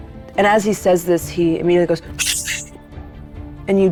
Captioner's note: shushes